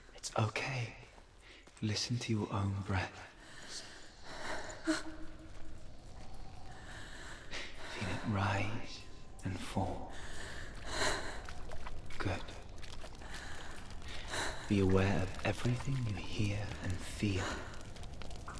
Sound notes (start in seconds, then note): 3.3 breathes deeply; 10.0 exhale